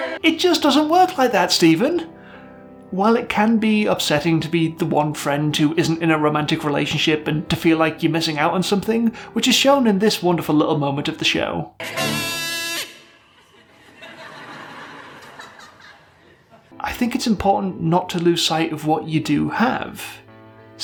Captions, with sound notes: It just doesn't work like that, Stephen. While it can be upsetting to be the one friend who isn't in a romantic relationship, and to feel like you're missing out on something, which is shown in this wonderful little moment of the show [Lonely Kazoo noises] [Mocking laughter] I think it's important not to lose sight of what you do have.